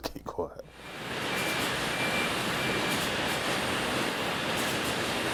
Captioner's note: machinery rattling and whirring